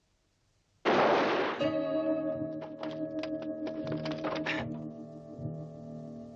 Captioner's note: gun banging; dramatic music